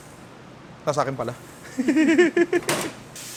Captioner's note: laughter